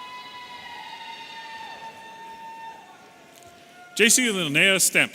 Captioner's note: audience cheering